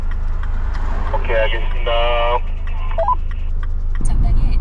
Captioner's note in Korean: 무전